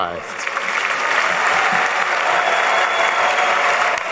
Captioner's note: applause